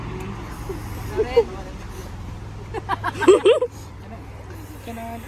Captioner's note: laughing